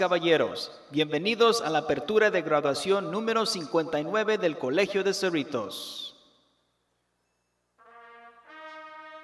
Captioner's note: announcement in spanish